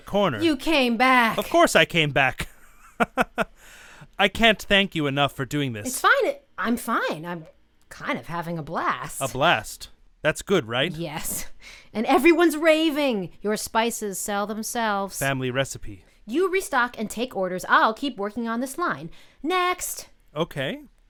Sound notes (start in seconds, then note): 2.8 laughs